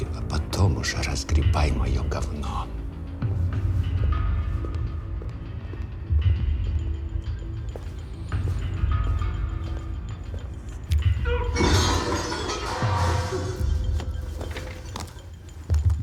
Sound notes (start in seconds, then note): 11.3 distant clamor